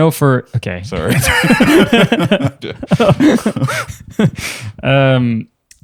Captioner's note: laughter